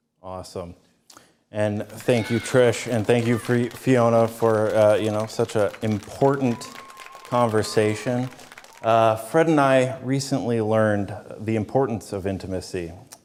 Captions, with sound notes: ≫ AWESOME. AND THANK YOU, TRISH. AND THANK YOU, FIONA, UH, YOU KNOW, FOR SUCH AN IMPORTANT CONVERSATION. [ Applause] ≫ FRED AND I RECENTLY LEARNED THE IMPORTANCE OF INTIMACY.